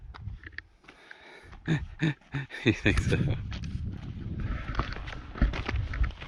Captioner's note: sarcastic laughing